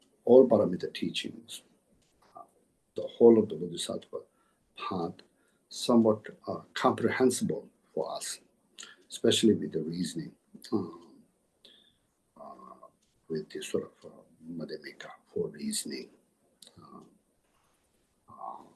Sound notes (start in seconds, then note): 16.4 tibetan